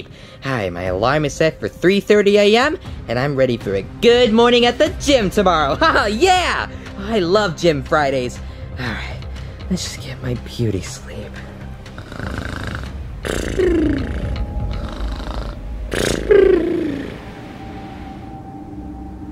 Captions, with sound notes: All right, my alarm is set for 3:30 a.m., and I'm ready for a good morning at the gym tomorrow. (laughs) Yeah! I love gym Fridays. All right, let's just get my beauty sleep. (Yoshi snores) (dramatic music)